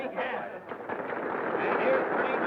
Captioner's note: crowd applauding